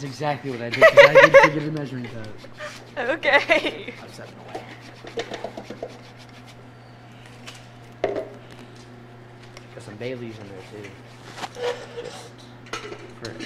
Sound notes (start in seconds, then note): 0.7 laughs; 2.5 laughing; 5.1 object tapping; 5.1 zester grating; 8.2 object thuds